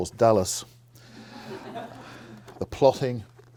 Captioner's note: audience laughing